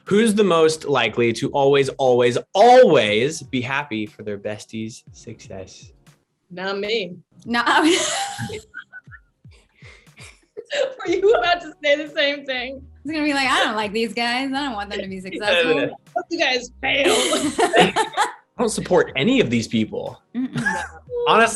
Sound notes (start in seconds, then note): 7.8 laughs; 7.8 all laugh; 17.1 all laugh; 20.8 chuckles